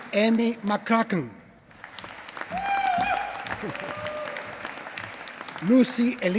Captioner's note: applause